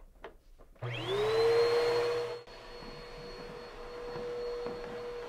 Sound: vacuum rumbling

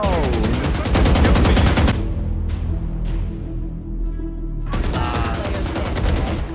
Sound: explosion sound

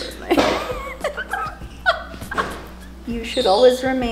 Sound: laughs

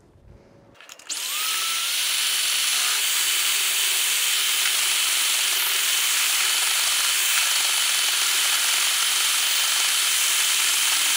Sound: mixer whirring loudly

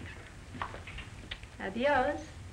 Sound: kiss

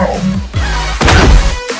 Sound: Junkrat screams and a crashing/thud sound is audible

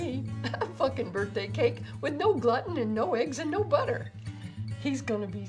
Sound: little giggle

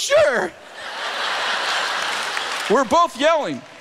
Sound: laughter

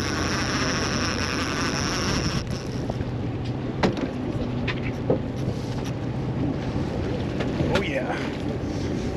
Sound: boat engine idling; reel cranking

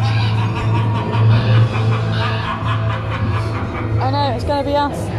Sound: The Phantom laughs; crow caws

